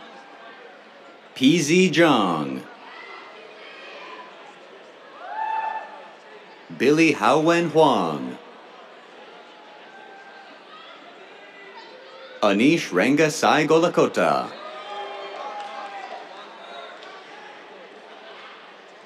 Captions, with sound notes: PZ Zhang. [CHEERS] Billy Haowen Huang. [CHEERS] Anish Ranga Sai Gollakota. [CHEERS, APPLAUSE]